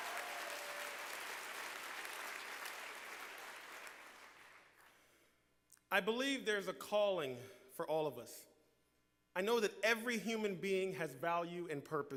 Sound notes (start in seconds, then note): 0.0 applause